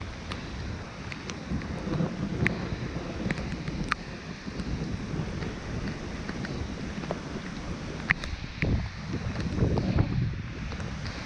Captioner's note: storm sounds